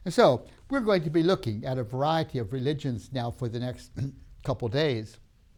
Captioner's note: clears throat